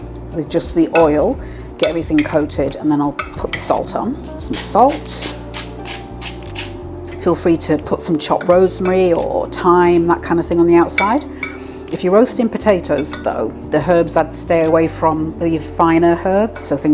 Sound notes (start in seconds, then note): 4.5 salt mill grinding